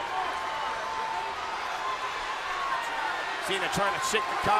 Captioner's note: crowd clamors